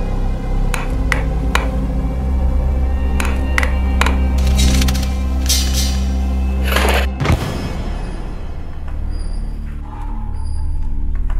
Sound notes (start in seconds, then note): 6.5 chair falls